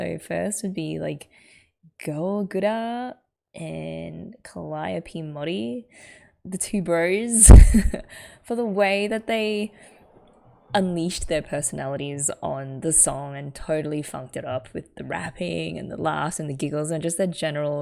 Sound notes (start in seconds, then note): 7.8 laughs